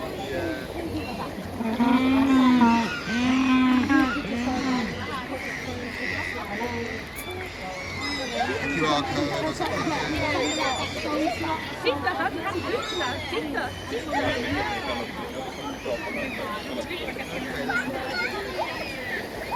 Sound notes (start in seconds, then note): 1.6 penguins make noise like donkeys braying